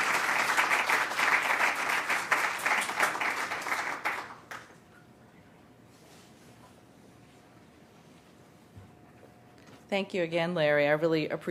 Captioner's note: applause